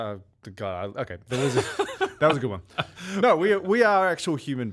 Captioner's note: laughing